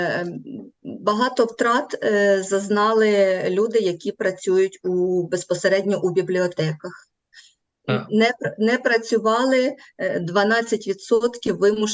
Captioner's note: foreign Language